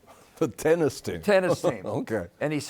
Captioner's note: chuckles